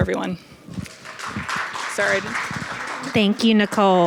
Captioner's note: attendees applauding